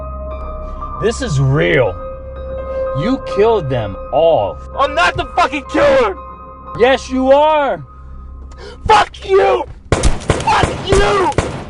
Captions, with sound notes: This is real. You killed them all. I'm not the fucking killer! Yes you are! Fuck you! (gunshots booming) Fuck you!